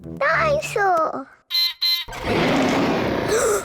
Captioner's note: beeps and roars; gasps and cries